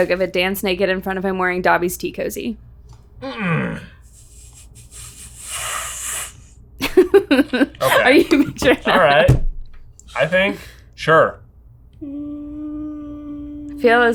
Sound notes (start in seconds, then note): 3.2 grumbling; 4.0 blowing air; 6.8 laughing; 11.9 humming